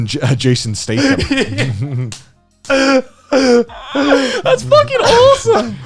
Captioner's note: laughing loudly